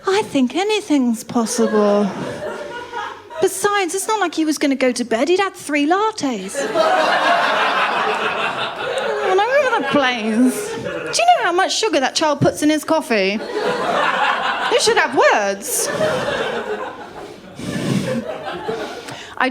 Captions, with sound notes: I think anything’s possible. [LAUGHTER] Besides, it’s not like he was going to go to bed, he’d had three lattes. [LAUGHTER] He was all over the place. Do you know how much sugar that child puts in his coffee? [LAUGHTER] You should have words. [LAUGHTER]